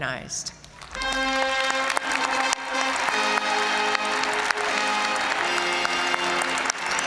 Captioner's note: audience applauding; triumphant music